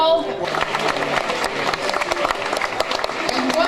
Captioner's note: applauding